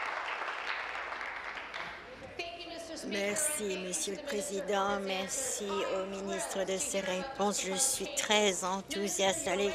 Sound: applause

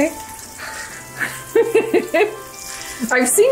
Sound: women laughing

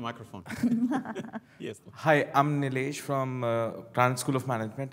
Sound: laugh

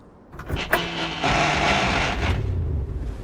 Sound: engine starts

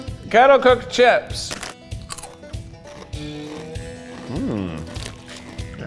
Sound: crunching

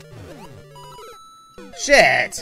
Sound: Super Mario Death Audio

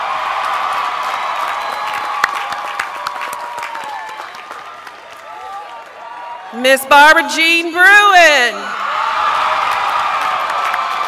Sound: cheers and applause

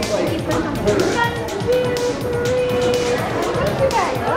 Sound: crowd noise

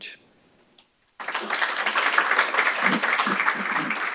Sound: applause

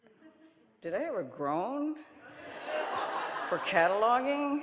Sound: audience laughing

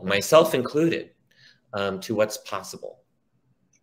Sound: none

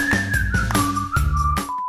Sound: beep

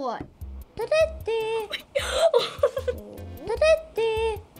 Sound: laughing

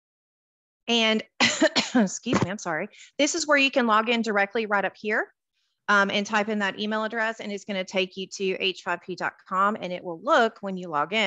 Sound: coughs

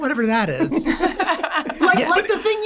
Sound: all laughing

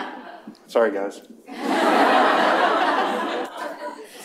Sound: laughter

